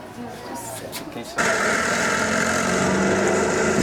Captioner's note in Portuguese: Barulho de motores